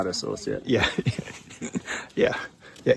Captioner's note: chuckles